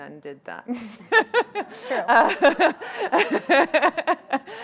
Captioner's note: crowd laughing